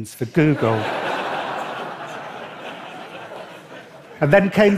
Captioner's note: laughter